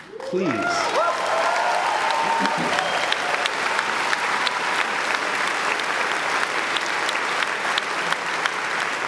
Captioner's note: applause